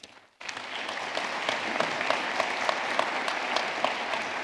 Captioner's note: audience clapping